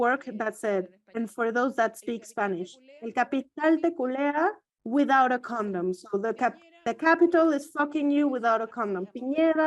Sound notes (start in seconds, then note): 3.4 speaks foreign language